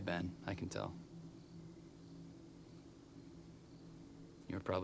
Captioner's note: crickets chirping